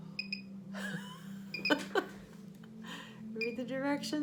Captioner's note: laughing